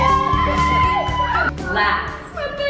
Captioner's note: family cheering